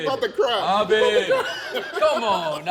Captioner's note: laughs